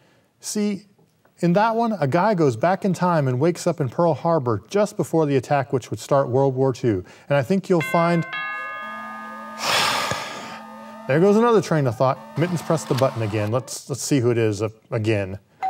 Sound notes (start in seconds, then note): 9.8 sighs